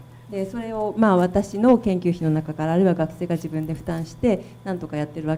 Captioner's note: speaking foreign language